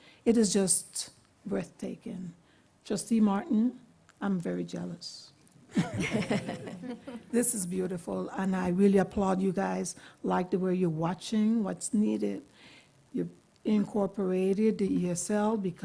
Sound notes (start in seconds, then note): 5.7 laughter